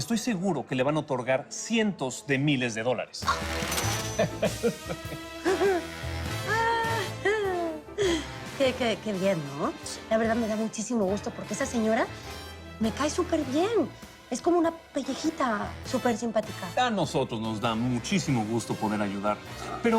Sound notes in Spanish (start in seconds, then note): 4.1 Risas